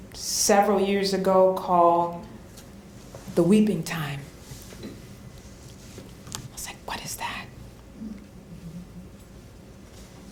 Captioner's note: whispering